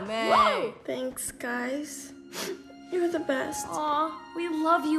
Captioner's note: sniffs